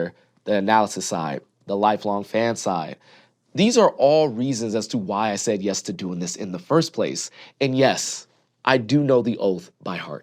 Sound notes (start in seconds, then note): none